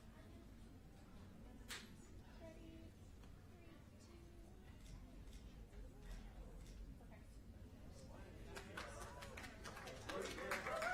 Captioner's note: applause